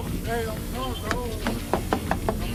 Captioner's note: knocking on window